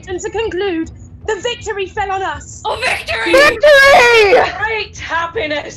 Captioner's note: shouting “Victory”